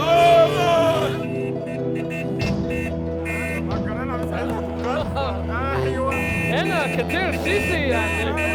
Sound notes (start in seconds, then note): 2.7 speaking Arabic